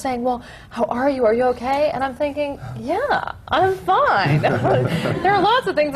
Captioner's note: laughter